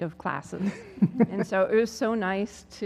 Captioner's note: laugh